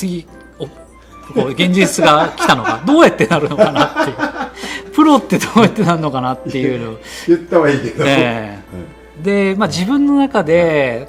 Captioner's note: laughs